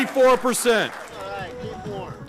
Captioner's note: cheering